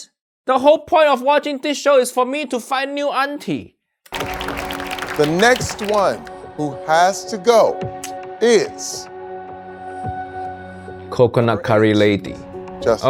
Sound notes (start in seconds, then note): 4.0 crowd claps